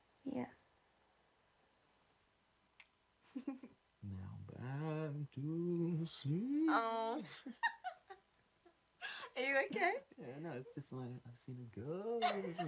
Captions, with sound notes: - Yeah. (insects chirping) (both laughing) - Now back to sleep. - Oh. (both laughing) Are you okay? - Yeah, no, it's just that I've seen a ghost.